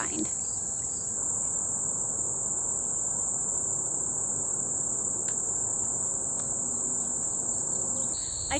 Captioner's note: outdoor sounds